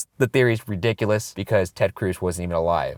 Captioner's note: voiceover